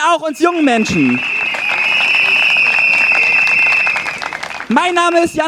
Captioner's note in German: Applaus und Trillerpfeifen